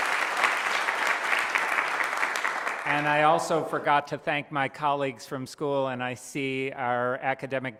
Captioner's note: cheers & applause